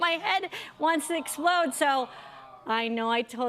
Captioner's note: audience "Awws"